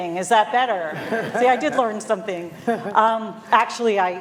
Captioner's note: laughter